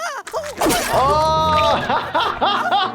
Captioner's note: Nutty whimpering; laughing